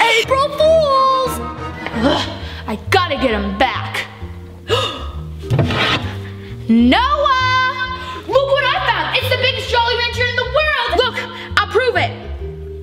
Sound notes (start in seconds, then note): 4.6 gasps